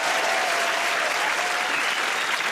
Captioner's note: cheers and applause